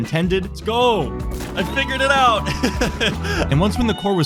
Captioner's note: laughing